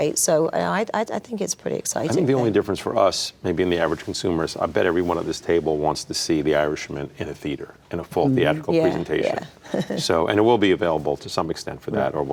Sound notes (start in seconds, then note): 9.6 chuckling